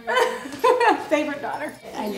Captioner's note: daughter laughs